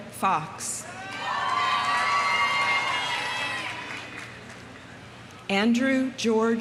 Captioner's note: audience cheering; audience applauding